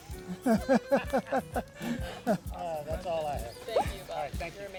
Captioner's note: laughs